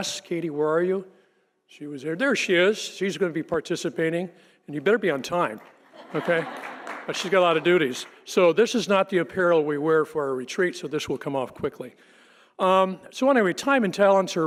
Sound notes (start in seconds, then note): 5.9 audience laughing